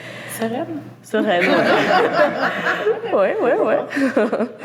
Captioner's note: laughs